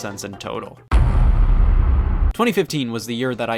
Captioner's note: heavy thud